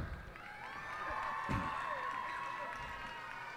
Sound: cheers and applause

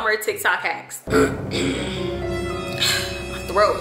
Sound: dramatic music; clears throat

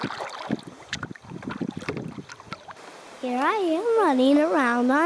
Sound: kayak paddles hitting water

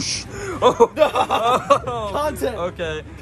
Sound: laughs

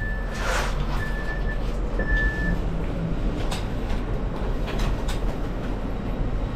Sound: alarm requesting assistance sounds

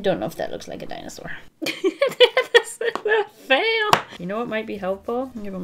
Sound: laughs

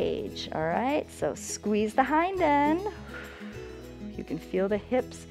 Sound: exhales

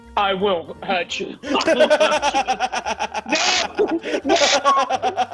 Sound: laugh

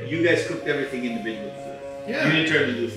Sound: murmuring

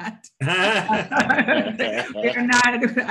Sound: all laugh

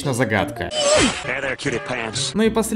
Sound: whoosh

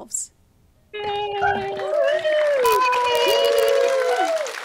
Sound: crowd applauding

